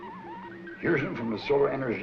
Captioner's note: buzzing; crickets chirping